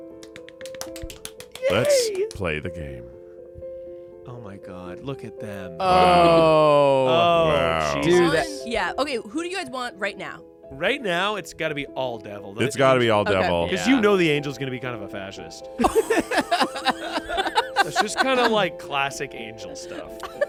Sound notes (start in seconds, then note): 0.1 clap; 15.8 everyone laughs